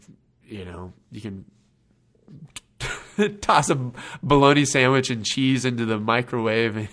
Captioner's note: laughs